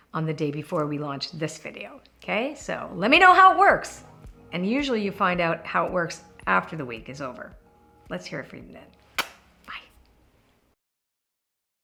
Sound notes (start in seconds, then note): 9.2 smacking sound